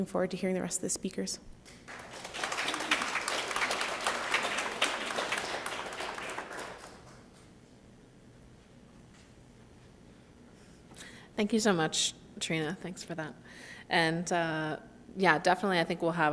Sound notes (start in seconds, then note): 1.6 applause